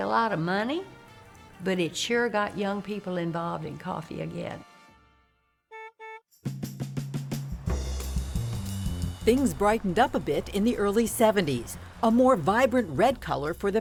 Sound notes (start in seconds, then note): 5.7 car horn honks; 6.5 upbeat music